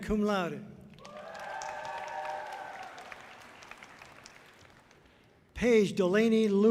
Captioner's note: audience cheering loudly